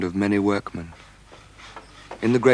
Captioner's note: sawing